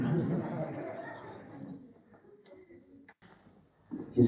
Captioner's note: laughter